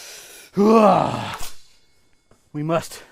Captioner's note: exhale